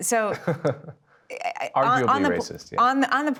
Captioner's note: Margaret laughing; laughing